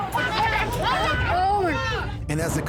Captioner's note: all shouting